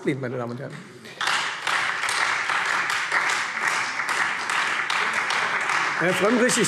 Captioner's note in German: Beifall Freie Demokraten und SPD - Zuruf